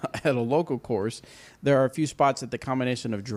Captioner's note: laughs